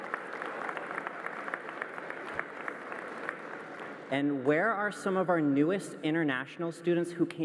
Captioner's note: applause